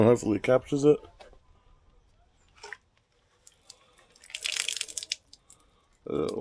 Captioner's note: crunching